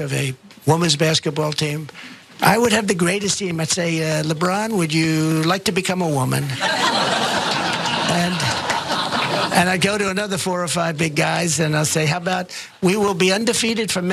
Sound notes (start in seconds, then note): 6.5 laugh